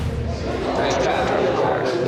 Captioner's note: patrons chattering